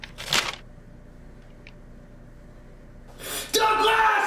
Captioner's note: falling bag thuds